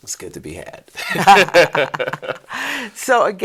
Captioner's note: both laughing